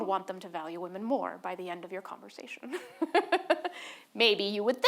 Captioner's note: laughs